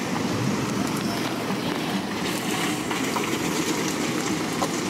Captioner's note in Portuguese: Sons de Motor